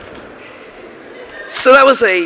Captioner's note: laughter